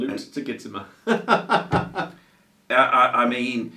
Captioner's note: laughs